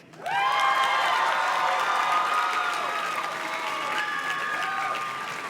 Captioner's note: audience cheers and claps